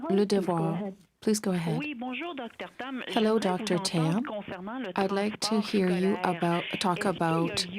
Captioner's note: speaking French